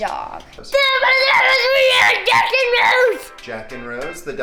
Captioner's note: yelling in gibberish